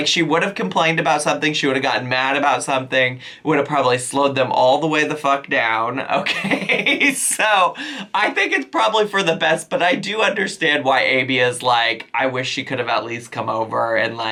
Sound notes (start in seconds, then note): 6.2 laughs